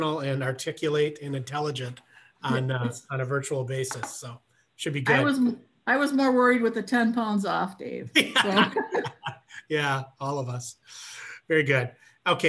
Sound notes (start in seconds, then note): 8.1 laughter